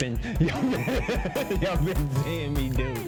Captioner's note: both laugh